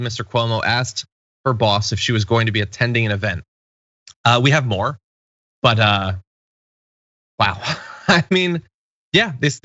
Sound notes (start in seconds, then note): 7.4 laugh